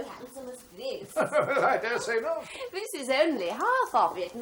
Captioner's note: laughs